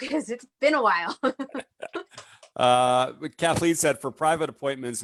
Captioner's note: chuckles